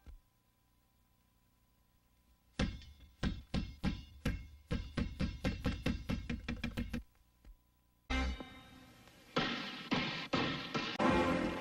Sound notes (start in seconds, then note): 3.2 basketball dribbling; 9.2 basketball dribbling